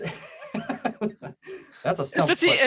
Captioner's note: laughs